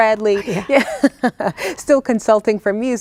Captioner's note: laughing